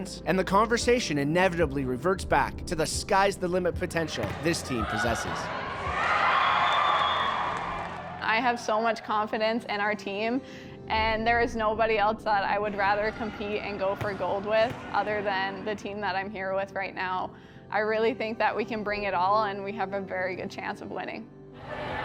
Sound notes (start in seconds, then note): 6.2 cheering; 6.6 whistle blows